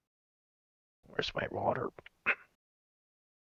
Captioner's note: cough